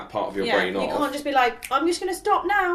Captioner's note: snapping